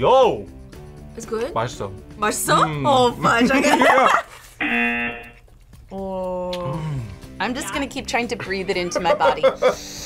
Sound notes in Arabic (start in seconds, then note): 4.6 يطن الجرس